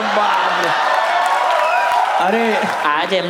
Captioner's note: crowd applauding